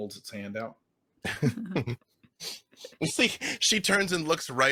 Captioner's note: laughing